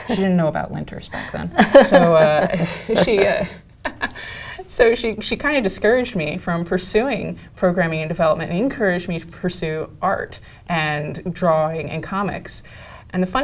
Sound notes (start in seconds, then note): 1.5 laugh